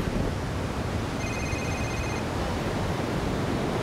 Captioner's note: ringing